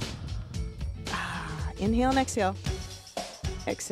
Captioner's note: sighs